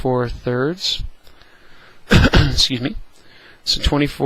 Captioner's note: cough